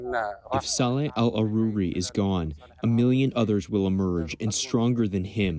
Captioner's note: through translator